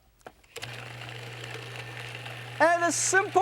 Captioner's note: food processor whirring